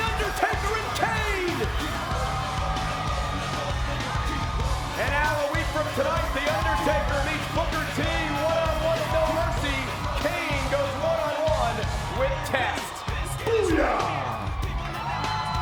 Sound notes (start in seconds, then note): 2.8 crowd cheering; 2.8 upbeat music